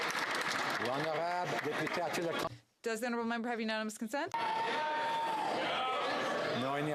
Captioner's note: applause